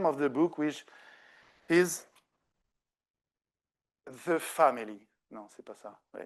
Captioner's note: speaking French